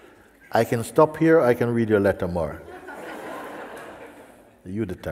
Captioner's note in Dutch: gelach